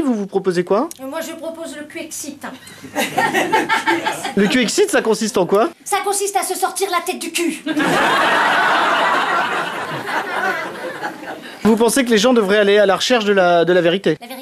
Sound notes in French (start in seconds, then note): 2.7 rires; 7.6 rires